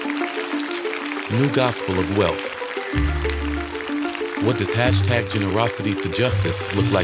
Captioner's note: applause